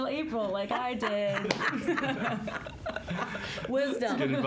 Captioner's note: all laughing